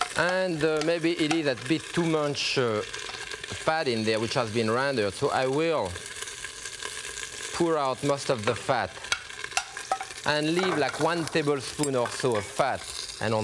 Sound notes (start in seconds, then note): 10.4 spoon clinging